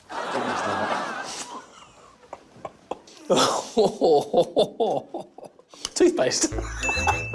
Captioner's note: laughter